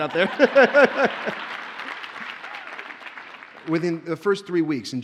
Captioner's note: audience laughs; audience cheers and applauds